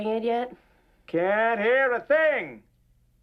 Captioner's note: yelling; yelling